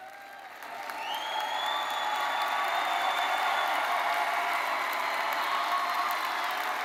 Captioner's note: attendees cheering and applauding